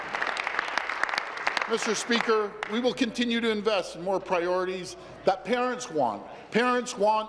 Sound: applause

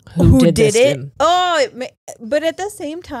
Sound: groans

